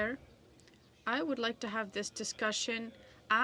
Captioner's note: speaking French